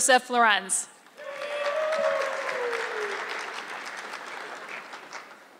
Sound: audience clapping

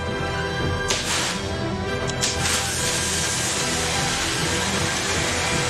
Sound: a click and an explosion; foreboding music intensifies; explosion intensifies

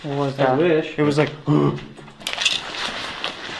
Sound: makes groaning sound

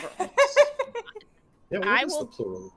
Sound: laughing

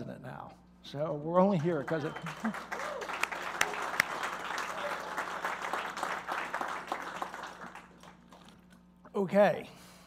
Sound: applause

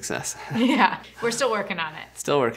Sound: laughs

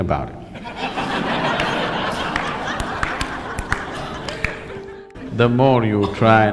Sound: laughter

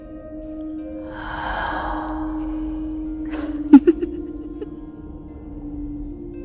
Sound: You hear an anguished whisper from an ancient cadaver, as Seraphina giggles

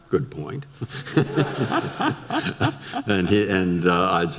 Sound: audience laughter

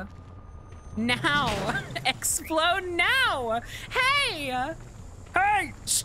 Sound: laughing

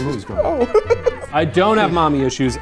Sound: laughs

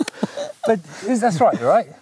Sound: laughs quietly

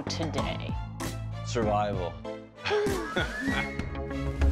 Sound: laughs

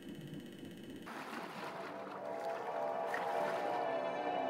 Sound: noise like you're being being abdicated by aliens

